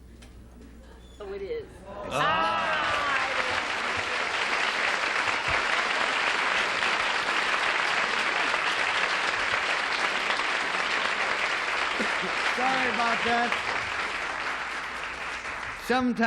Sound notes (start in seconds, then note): 2.7 applause